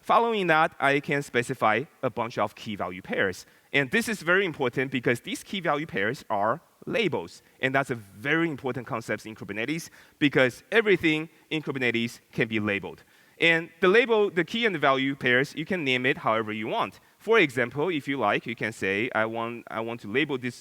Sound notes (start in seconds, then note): none